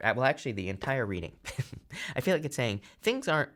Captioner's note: laughs